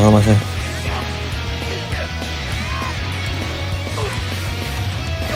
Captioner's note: clash